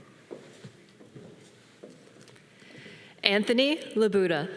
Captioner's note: footstep tapping